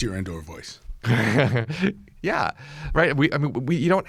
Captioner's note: laughs